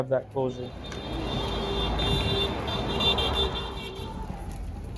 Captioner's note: cars honking